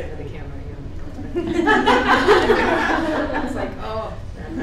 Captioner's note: laughing